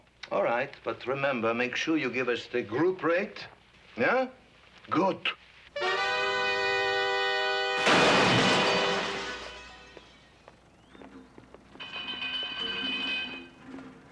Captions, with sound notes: - All right, but remember, make sure you give us the group rate, yeah? Good. (dramatic music) (clattering)